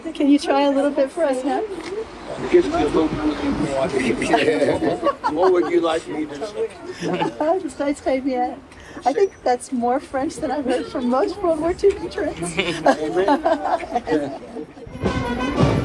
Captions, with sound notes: - Can you try a little bit for us now? (Audio muffling) - What would you like me to say? - I think that's more French than I've heard from most world war ii veterans.